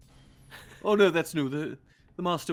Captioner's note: Cornette laughs